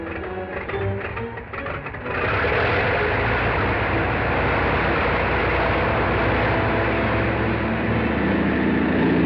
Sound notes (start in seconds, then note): 1.8 plane whirring